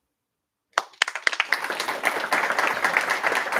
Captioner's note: applause